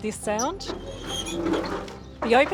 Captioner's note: hinges creak